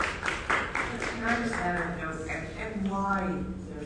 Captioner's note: audience applauding